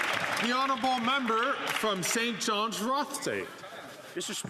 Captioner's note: some Applause